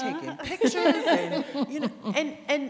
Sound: laughing

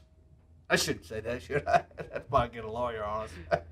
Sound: laughs

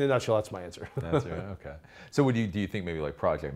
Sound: laughs

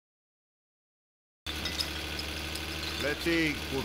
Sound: bottle caps and bottle clinking

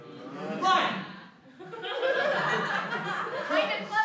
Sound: laughter

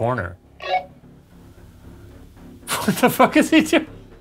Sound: walkie beeps

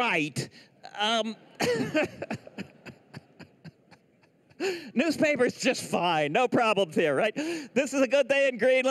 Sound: laughs

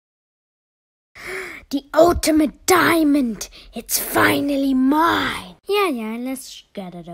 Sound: gasp

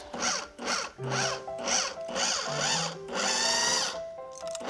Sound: pulsing whir

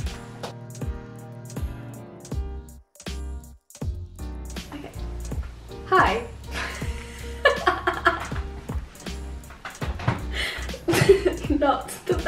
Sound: laughter

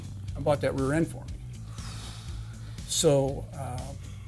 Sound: exhales deeply

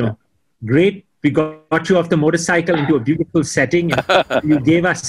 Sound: Sadhguru laughs

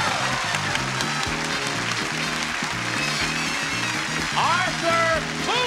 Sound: applause, cheering

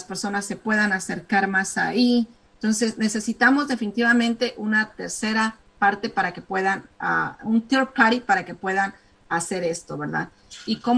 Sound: speaking spanish

